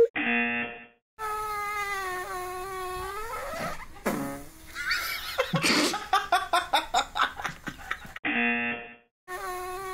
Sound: buzzer; fart noises; fart noises

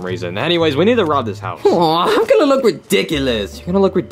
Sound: whimpers

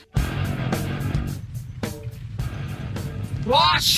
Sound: earth rumbling, music starts to fade out

